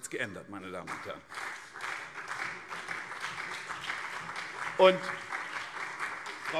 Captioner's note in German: Beifall CDU und SPD